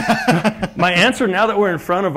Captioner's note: laugh